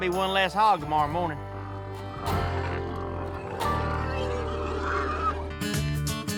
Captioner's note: grunting